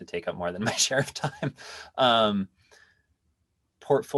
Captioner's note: laughs